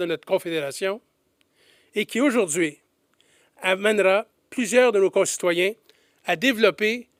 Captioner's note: none